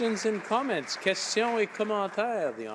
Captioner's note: some Applause